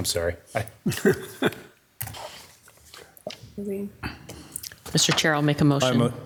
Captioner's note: chuckling